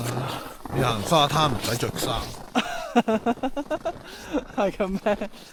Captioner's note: haha